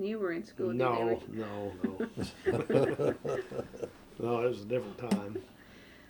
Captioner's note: laughter